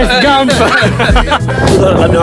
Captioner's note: laughter